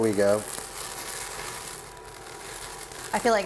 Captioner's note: fire blazing